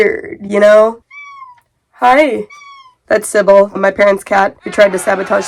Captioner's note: meowing offscreen; more meowing; angry crowd noise